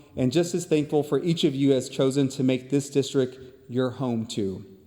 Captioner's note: none